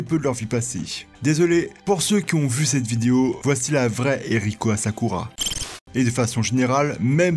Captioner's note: beep